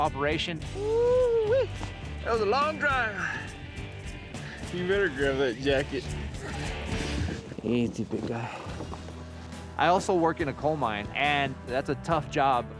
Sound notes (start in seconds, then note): 6.4 horse blusters